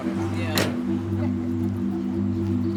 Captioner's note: indistinct conversation